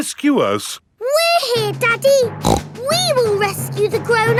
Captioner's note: snorts